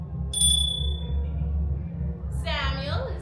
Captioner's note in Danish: klokken ringer